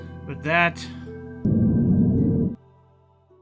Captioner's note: deep growl